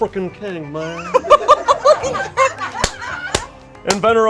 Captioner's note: group laughs